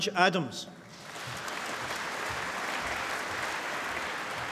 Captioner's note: applause